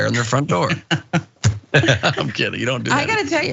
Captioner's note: laugh